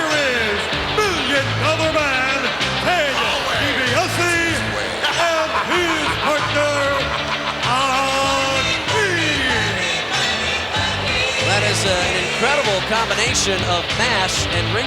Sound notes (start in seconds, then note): 8.3 Ted chuckling; 10.2 upbeat music